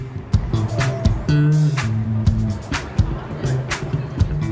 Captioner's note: cars whooshing